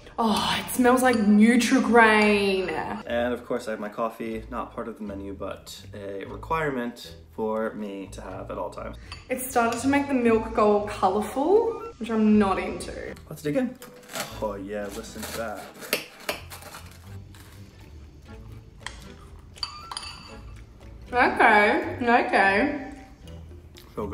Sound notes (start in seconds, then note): 14.8 crunching; 15.4 spoon clanking